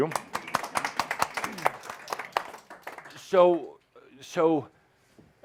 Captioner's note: audience applause as a woman stands who is dressed up as Gaia